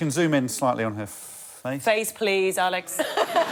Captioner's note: laughter